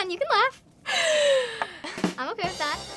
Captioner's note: laughs